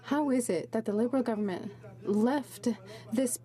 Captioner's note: speaking french